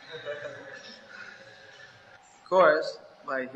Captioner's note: devotees laughing